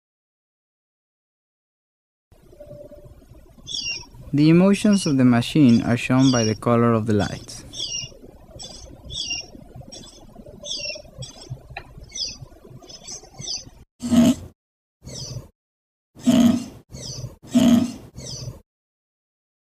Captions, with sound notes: The emotions of the machine are shown by the color of the lights. [bird calling] [machine sound]